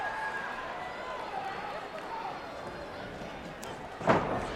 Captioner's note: crowd chatter